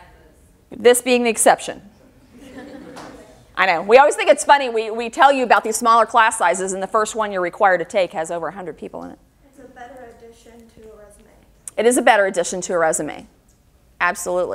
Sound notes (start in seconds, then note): 2.3 audience laughter